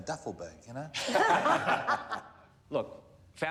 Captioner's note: laughter